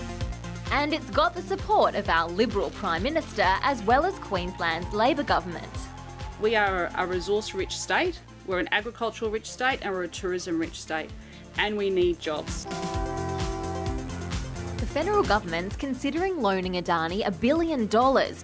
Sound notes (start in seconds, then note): 12.6 train horn honks